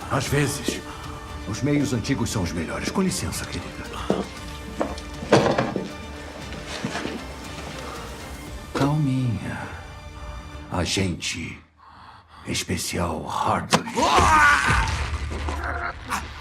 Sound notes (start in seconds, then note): 13.9 yells